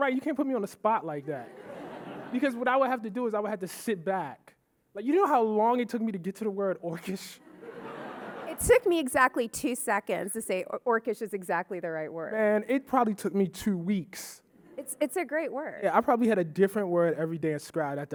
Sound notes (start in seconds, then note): 1.2 audience laughing; 7.4 audience laughing